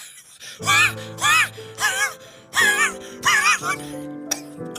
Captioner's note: continued wheezing; quiet coughing